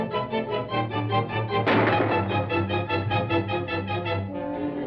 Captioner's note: gunshots